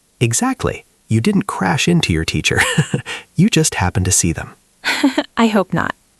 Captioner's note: laughs; laughs